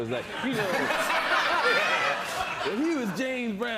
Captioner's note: laughs